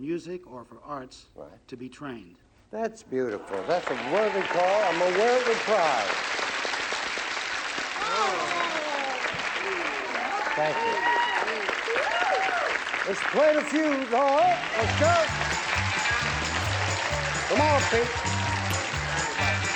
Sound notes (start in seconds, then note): 5.8 applause; 11.0 cheering; 15.3 applause, theme music